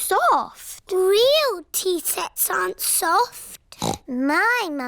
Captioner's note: snorts